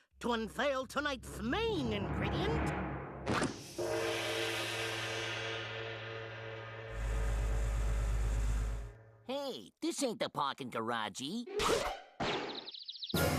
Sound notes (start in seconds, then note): 3.9 bell tolling